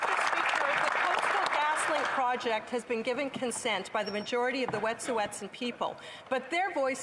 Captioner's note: applause